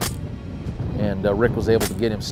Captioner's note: gun firing; animal calls